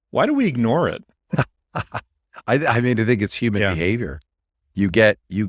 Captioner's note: laughs